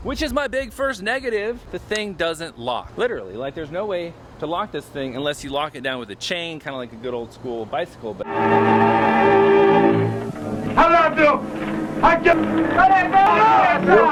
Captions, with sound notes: Which is my big first negative! The thing doesn't lock, literally. Like, there's no way to lock this thing unless you lock it down with a chain, kinda like a good old school bicycle. (classical music) (man yelling)